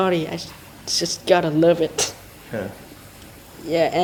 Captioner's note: laughs